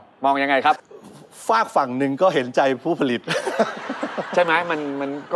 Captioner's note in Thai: หัวเราะ